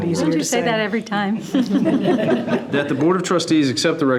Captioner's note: group laughing